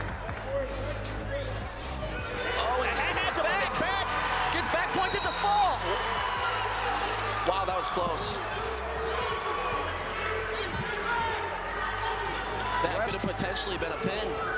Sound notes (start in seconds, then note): 6.8 applause and cheering